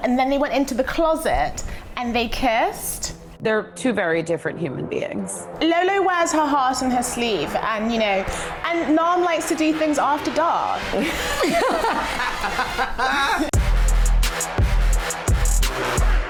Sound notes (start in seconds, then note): 10.8 laughing; 12.9 upbeat music playing